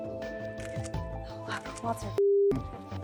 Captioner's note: camera snapping